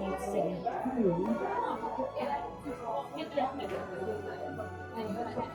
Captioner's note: people chattering